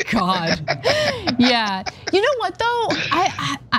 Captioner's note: laugh